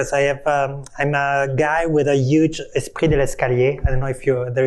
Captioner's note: non-english speech